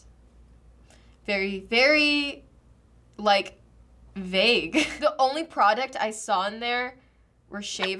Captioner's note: chuckles